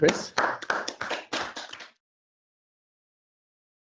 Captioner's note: clapping